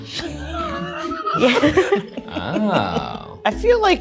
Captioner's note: all laughing